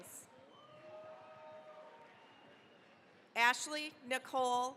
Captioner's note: cheering, applause